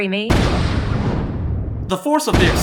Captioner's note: explosion